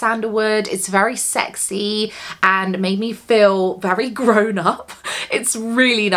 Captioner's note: laughs